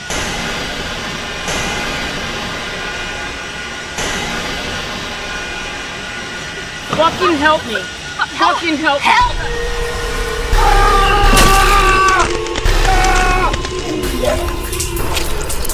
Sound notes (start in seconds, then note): 0.1 dramatic music; 10.7 Bobby yells